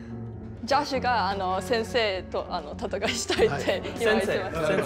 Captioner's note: speaking japanese